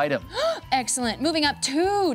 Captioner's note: gasping